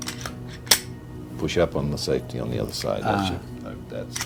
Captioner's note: gun clicks